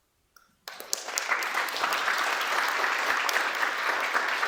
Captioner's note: applause